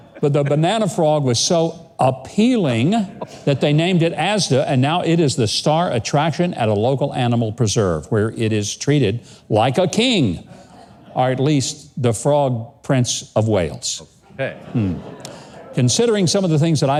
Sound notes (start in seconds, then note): 0.0 audience laughing; 14.3 grunts; 14.3 audience laughing